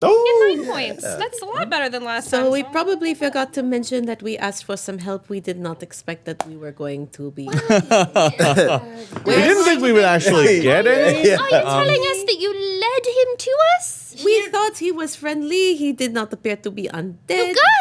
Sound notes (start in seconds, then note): 7.5 laughing